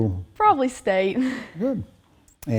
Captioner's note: laughing